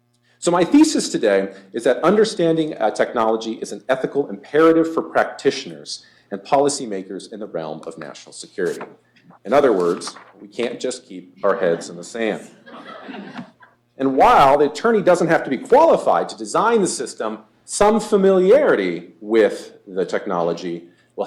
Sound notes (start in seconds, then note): 12.3 laughter